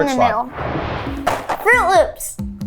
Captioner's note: animated explosion booming; cereal box thudding